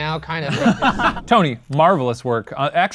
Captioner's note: laughs